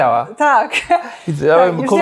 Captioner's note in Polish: śmiech